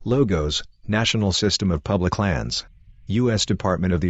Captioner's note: birds chirping